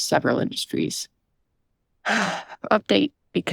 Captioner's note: sighs